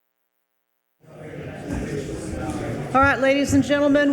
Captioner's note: attendees chattering